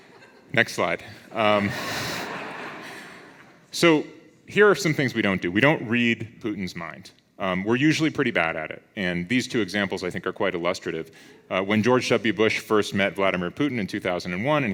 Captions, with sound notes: Next slide. (audience laughs) So here are some things we don't do. We don't read Putin's mind. We're usually pretty bad at it. And these two examples I think are quite illustrative. When George W. Bush first met Vladimir Putin in 2001,